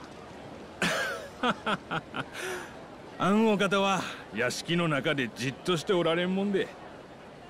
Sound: laughs

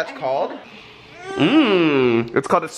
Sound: groans

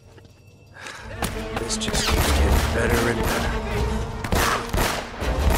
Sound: laughs; sighs

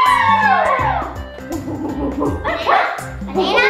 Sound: gorilla sounds

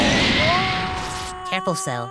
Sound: Cell groans strangely

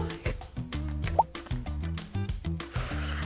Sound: popping sound effect

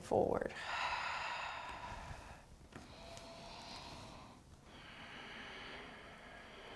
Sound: heavy breathing

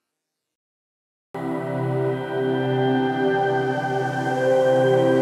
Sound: speaks Te Reo Māori

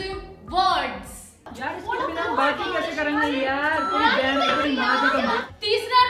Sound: crowd talking

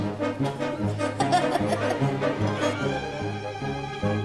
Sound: Ador laughing

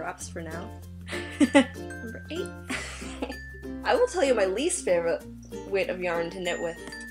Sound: laughs

